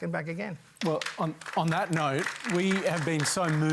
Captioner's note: applause